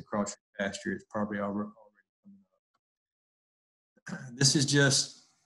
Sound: voice muffled

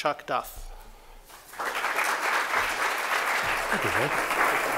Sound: applause

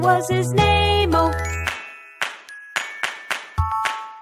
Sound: clap

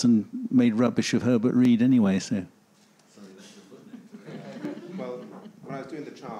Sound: faintly speaking

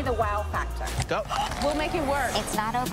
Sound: gasps

